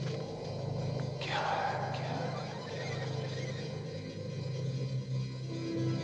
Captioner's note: mysterious voice echoing